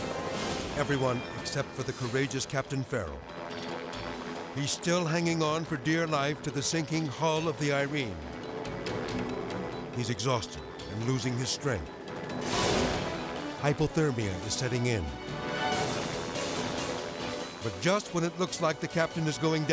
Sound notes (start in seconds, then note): 0.0 helicopter rotor whirring; 0.0 tense music; 3.0 helicopter rotor whirring; 3.0 tense music; 7.9 helicopter rotor whirring; 7.9 tense music; 11.9 graphics whooshing; 15.2 helicopter rotor whirring; 15.2 tense music